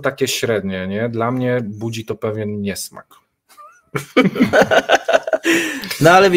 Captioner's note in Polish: śmiech